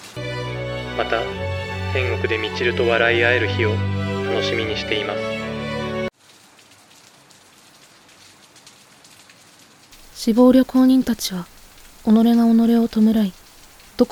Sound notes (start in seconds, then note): 6.0 sound of rain